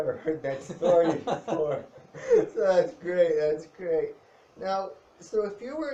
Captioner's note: laughs